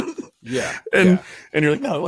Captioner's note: laughs